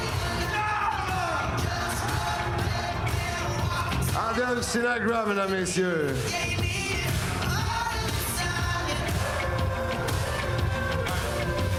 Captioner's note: cheering and Applause